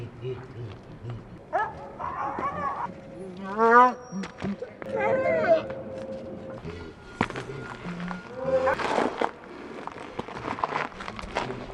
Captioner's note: animal noises escalate